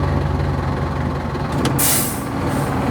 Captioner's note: engine revving